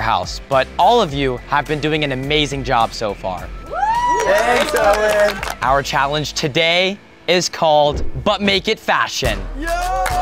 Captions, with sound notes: in the Next Influencer house but all of you have been doing an amazing job . (housemates cheering) - Thanks Owen. - Our challenge today is called But Make It Fashion.